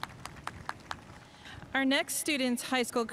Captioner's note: spectators applauding